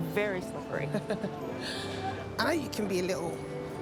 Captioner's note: Regina laughing